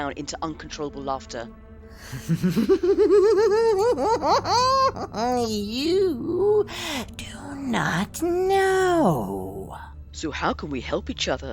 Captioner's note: laughter